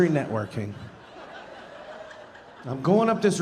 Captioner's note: audience laughing